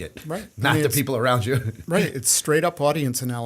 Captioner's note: chuckle